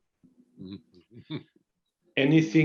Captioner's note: laughs